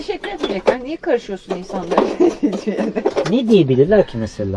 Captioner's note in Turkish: kahkaha